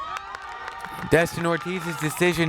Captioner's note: crowd cheers